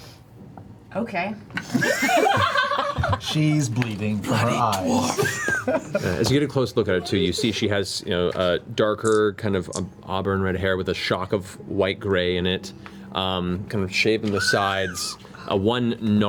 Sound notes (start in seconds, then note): 1.6 laughter